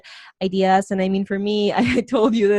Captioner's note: laughs